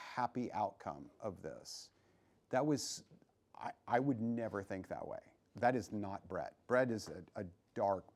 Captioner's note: none